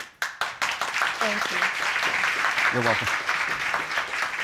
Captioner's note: audience applauding